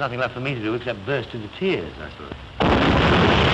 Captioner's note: boom